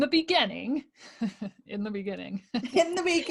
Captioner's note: laughing